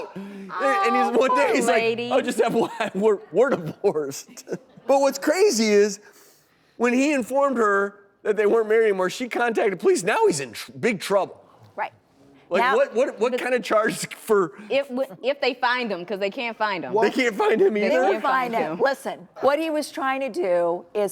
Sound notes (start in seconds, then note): 2.7 laughs